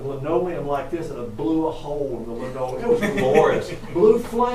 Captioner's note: audience chuckling